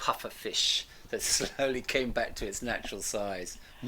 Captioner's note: laughing